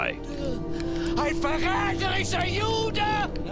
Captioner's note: shouting antisemitic remarks in German